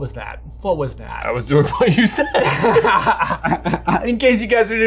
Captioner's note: laughs